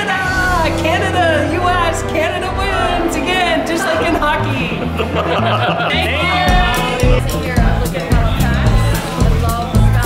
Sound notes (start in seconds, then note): 4.0 laughs